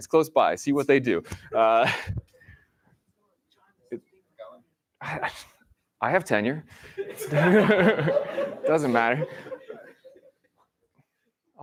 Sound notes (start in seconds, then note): 6.8 laughter